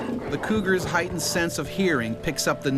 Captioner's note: voiceover